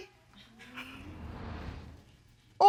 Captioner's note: audience members chuckle